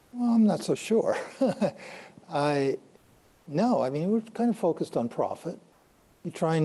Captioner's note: chuckles